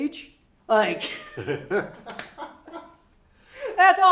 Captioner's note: laughter